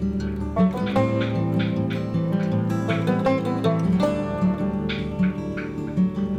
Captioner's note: laughs